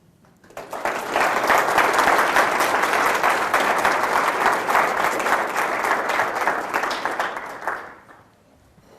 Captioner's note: applause